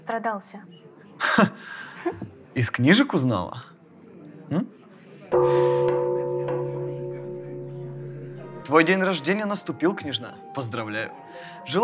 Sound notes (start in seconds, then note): 5.3 alarm bell